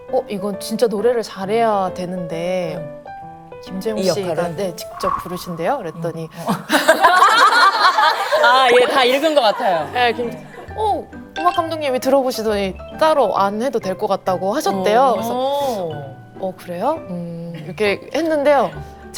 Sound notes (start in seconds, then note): 6.4 laughing